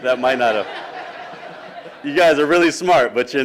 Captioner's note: laughing